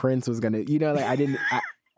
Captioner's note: laughs